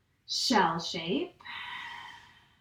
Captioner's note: exhales